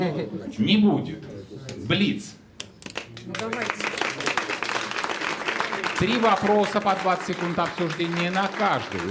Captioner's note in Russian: аплодисменты